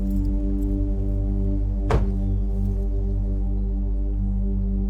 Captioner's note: door clunks